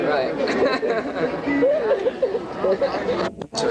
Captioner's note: laughter